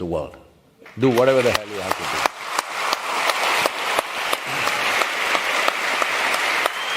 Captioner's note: cheering/Applause